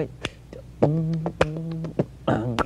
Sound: beatboxing

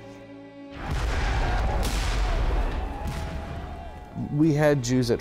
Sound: artillery firing

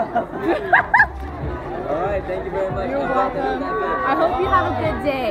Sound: laughs

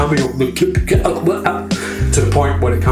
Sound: imitates choking

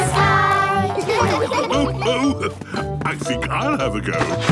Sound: laughs

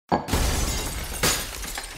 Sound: crash

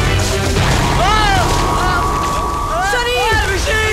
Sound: groans

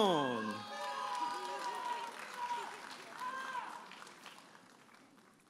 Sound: audience applauding and cheering

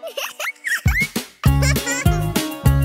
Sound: giggles

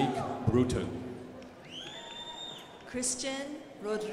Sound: crowd applauding

